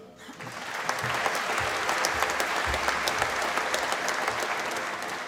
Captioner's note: applause